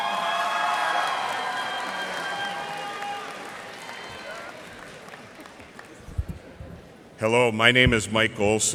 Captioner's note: cheers and applause